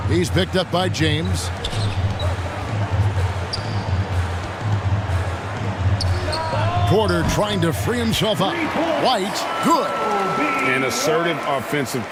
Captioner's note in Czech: Potlesk